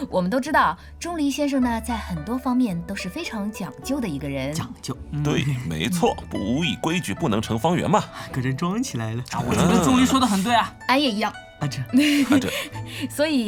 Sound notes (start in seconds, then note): 9.8 defensive